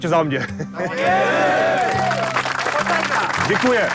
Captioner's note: clapping